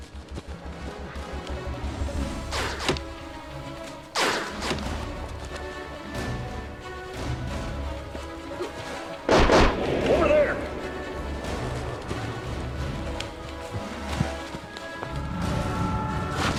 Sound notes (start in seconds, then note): 0.2 exciting instrumental music; 2.4 guns bangs; 4.2 exciting instrumental music; 9.2 gun bangs; 15.1 ship whirs